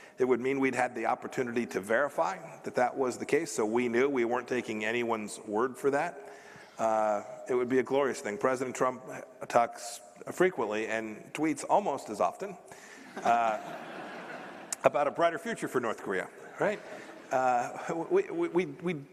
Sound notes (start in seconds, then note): 13.0 laughter